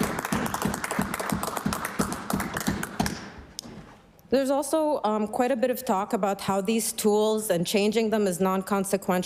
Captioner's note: applause